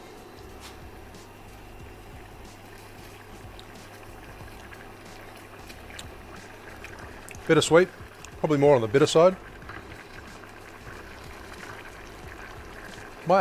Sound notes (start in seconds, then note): 0.2 upbeat music; 3.5 mixture bubbling; 10.1 mixture bubbling